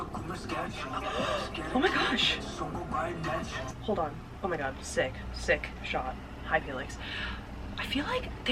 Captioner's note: gasps